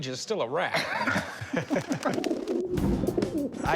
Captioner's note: laughter; pigeons cooing